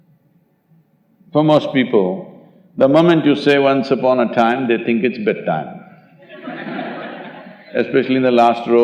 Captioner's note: laughter